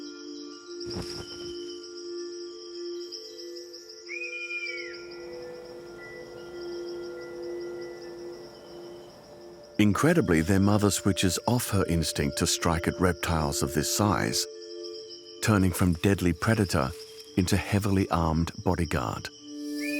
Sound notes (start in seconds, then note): 3.9 kestrel screeches